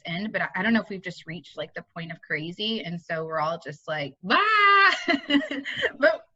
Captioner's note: laughing